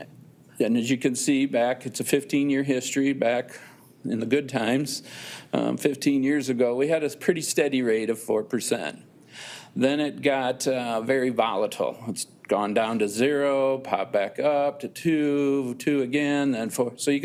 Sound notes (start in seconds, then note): none